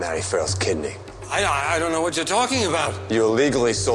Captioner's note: stammers